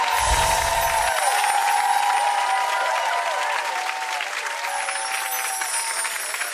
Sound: audience applauds

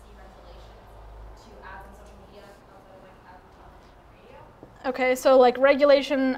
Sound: audio fades away

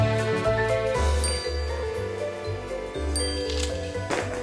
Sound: dinging

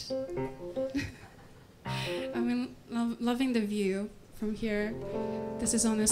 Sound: laugh

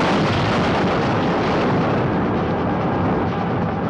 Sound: train crashing

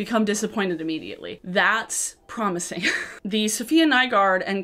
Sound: chuckles

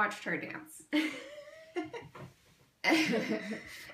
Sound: laughs

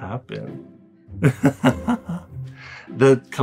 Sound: laughing

